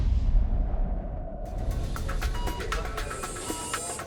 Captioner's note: medical device beeping